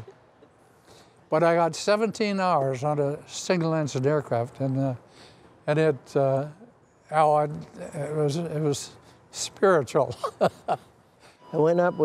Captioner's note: laugh